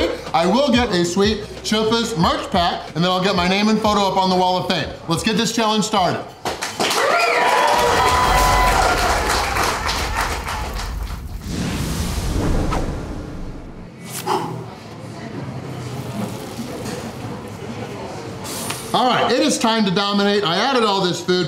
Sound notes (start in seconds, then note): 6.4 crowd clapping and cheering